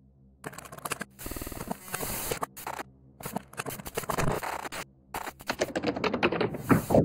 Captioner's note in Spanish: Sonido distorsionado